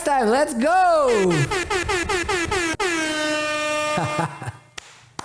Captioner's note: horn blows; laughs